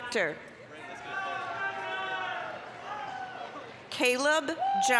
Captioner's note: applause, cheering